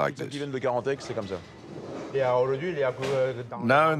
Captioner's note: speaking in foreign language